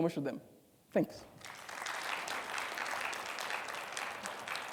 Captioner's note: audience applauding